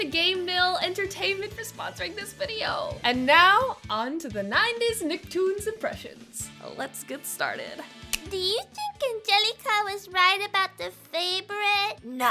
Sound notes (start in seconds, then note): 8.0 snaps fingers